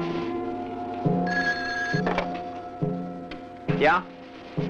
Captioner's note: phone ringing